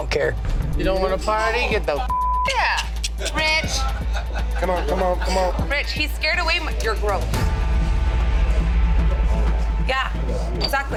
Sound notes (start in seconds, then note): 2.0 beep; 8.5 dramatic instrumental music